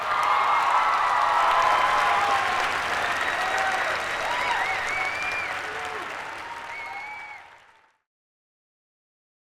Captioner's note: applause